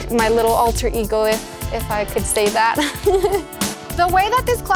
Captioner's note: laughs